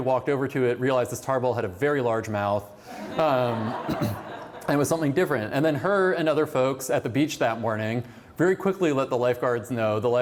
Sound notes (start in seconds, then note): 2.9 laughter